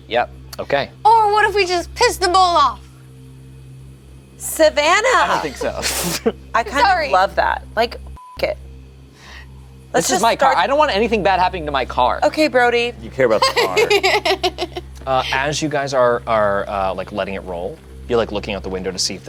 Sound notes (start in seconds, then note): 9.3 beeps; 13.2 laughs